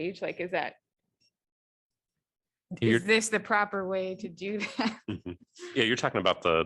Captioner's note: laughter